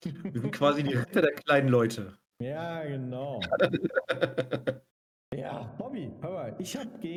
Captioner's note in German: gelächter